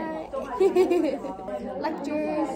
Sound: girls laugh

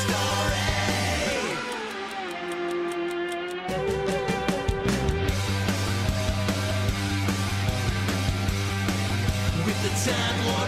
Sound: clock ticking

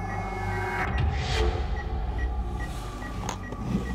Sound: ominous music; beeping

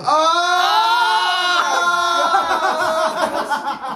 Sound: laughter

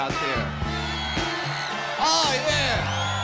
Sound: audience applauding

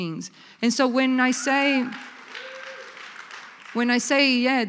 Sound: applause

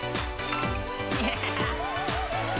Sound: laughing

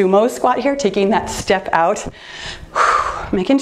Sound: exhaling

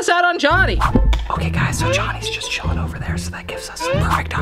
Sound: whispering

